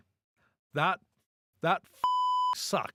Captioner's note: beep